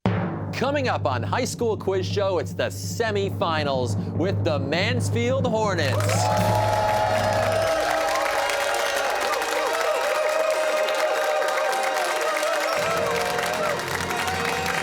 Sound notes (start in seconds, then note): 5.9 cheers and applause